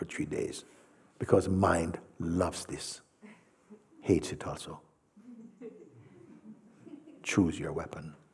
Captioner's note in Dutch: gelach